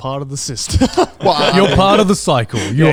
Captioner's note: laughing